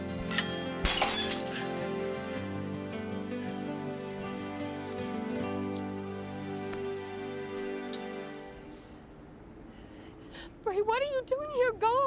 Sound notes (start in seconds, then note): 0.1 glasses shattering